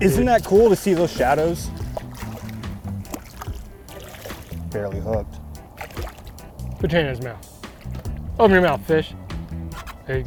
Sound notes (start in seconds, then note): 2.5 water splashing; 5.9 water splashing